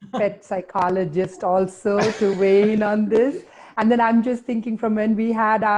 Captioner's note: laughter